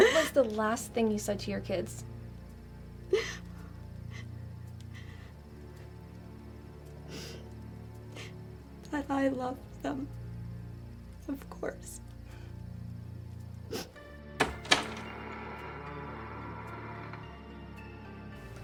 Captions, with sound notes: - What was the last thing you said to your kids? - That I loved them, of course. (door creaking)